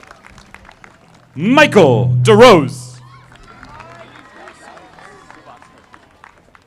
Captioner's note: audience applauding; audience applauding